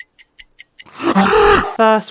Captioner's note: scream